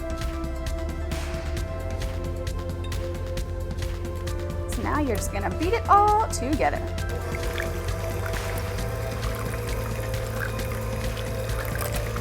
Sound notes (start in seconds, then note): 0.1 gentle music; 7.0 eggbeater whirring